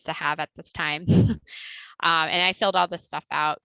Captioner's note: laughter